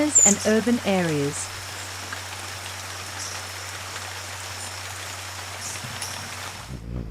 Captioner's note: birds chirping; rain; bird's wing flapping